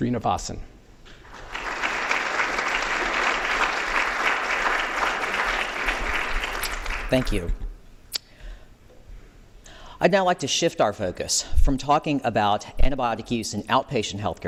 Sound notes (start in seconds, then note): 1.2 applause